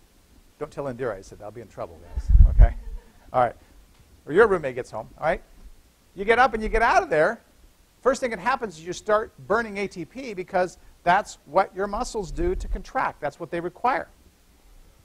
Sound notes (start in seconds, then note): 2.6 laughter